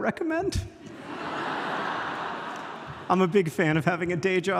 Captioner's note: audience laughs